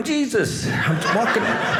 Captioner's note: audience laughing